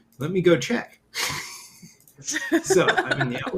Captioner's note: laughter